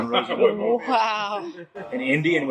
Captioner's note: laughing